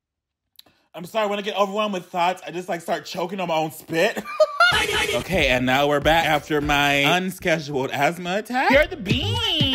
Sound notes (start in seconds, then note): 4.2 laughing